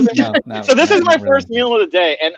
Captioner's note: laughing